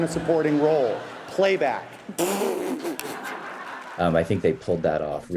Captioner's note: audience laughs